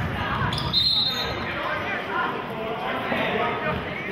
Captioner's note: whistling